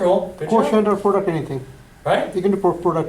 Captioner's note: voiceover